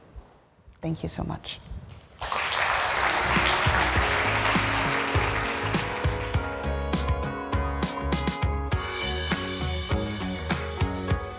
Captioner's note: applause